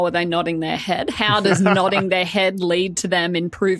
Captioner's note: laughs